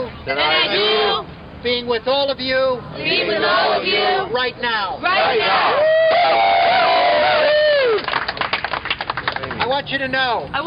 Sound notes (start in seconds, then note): 5.7 cheering and applause